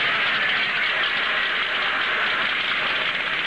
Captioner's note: Hackel On P.A